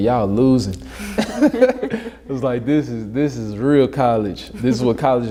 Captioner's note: laughs